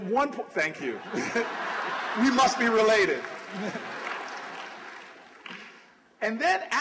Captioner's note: laughter